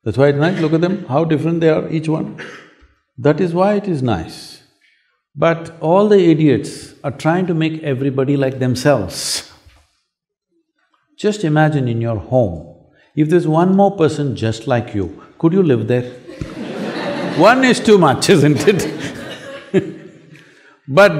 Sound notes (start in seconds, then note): 16.0 laughter